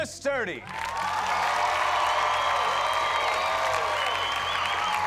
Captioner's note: cheers and applause